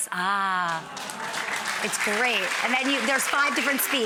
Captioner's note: audience applauds